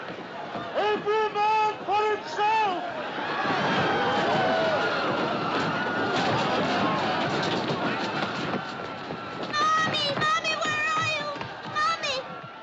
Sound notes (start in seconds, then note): 3.4 Gritando